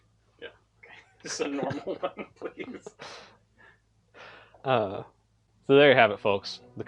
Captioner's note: sigh